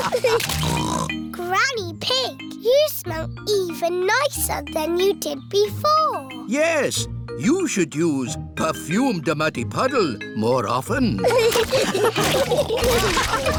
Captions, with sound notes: (SNORTS) Granny Pig, you smell even nicer than you did before. Yes. You should use perfume de muddy puddle more often. (ALL LAUGHING)